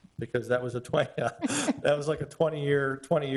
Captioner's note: laughing